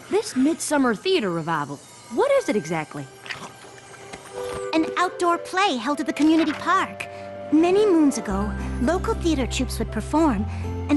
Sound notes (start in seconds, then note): 3.2 chewing